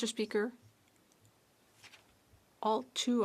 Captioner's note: speaking French